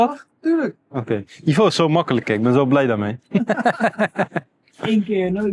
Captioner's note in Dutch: gelach